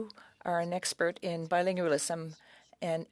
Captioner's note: speaking French